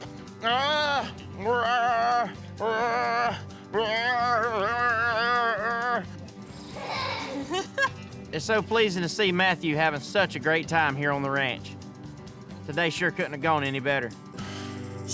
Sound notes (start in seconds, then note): 6.8 laughing